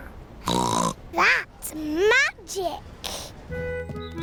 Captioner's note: snorts